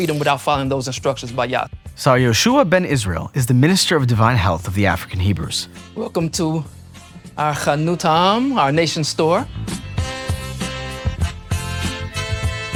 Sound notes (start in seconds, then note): 6.4 speaks in foreign language; 10.2 bright music